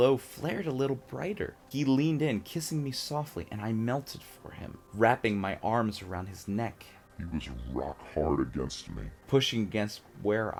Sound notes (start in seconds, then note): 7.2 deep voice effect